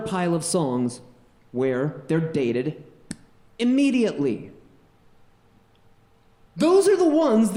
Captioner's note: snaps